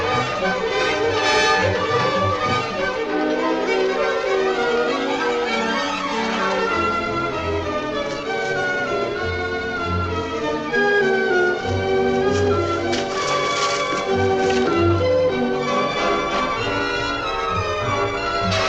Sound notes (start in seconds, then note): 12.0 water splashing